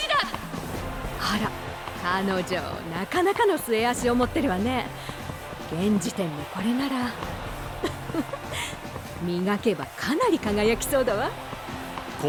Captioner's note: laugh